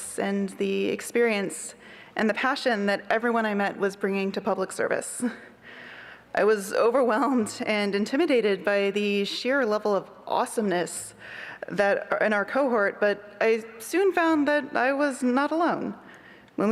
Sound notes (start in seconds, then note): none